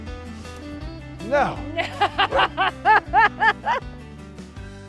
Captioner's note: Camper barks